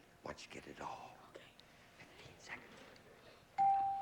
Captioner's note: whispering